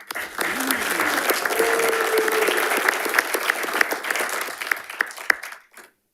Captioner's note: panelists applauding